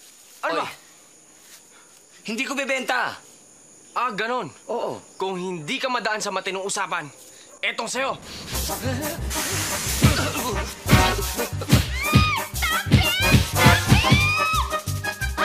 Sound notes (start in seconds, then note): 8.1 steam blowing; 10.0 grunting; 13.7 screams